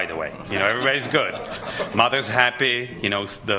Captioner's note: laughter